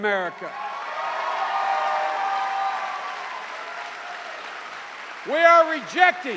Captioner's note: cheers and applause